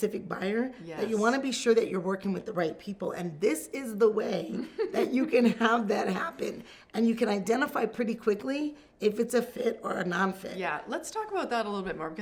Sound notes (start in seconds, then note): 4.5 giggles